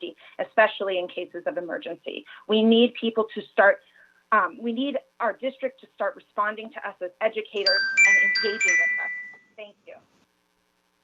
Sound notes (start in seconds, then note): 7.6 chime